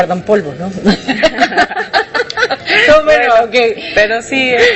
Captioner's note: laughs